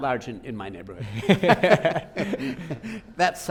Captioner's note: both laughing